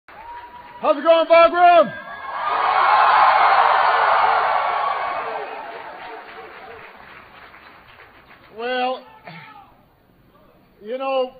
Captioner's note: applause